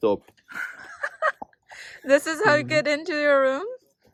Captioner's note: laughing